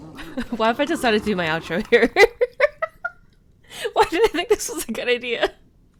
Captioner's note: laughing